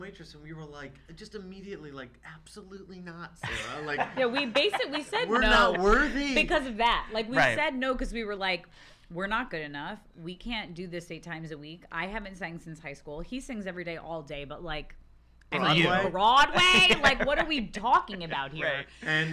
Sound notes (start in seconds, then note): 3.4 laughs